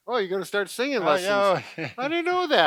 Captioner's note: laughs